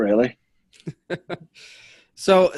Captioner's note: men laughing